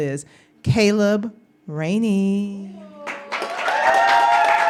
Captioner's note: applause